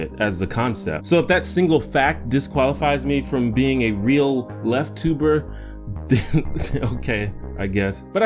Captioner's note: chuckle